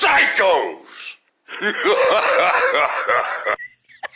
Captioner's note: evil Laughter